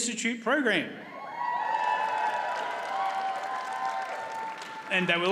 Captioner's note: audience cheers and applauds